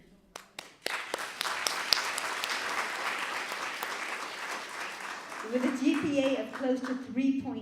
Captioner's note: applause